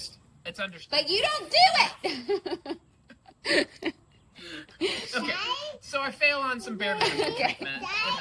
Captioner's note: laughs